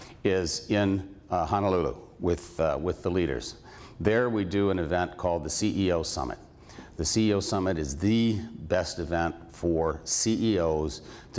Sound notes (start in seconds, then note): none